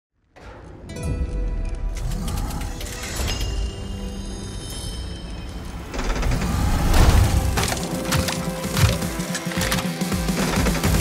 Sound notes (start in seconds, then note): 0.3 mystical music playing; 5.8 mechanism whirring